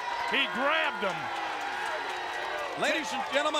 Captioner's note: crowd cheering